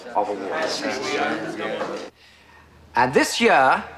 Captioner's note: indistinct chattering